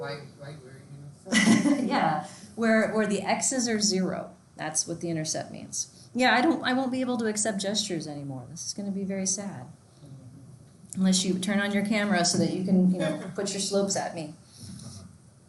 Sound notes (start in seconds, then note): 1.3 laughs